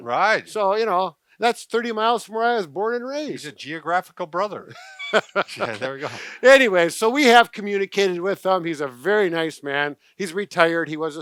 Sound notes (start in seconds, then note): 4.7 low chuckling